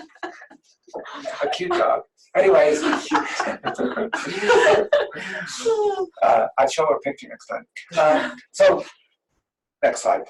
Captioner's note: laughter